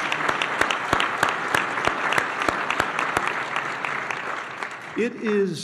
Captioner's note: applause